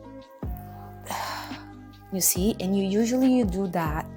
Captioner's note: exhaling